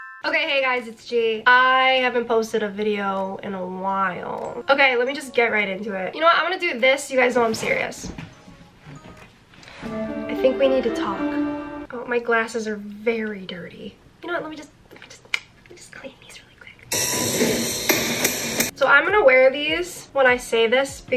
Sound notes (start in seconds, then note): 0.0 bell chiming; 9.6 instrumental music; 17.0 saw grinding